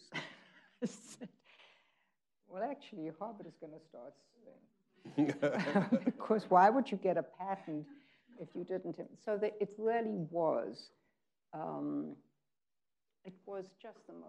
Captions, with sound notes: I said, "Well actually Harvard is gonna start suing." (people laughing) Beause why would you get a patent if you didn't, so it really was, it was just the most fun job.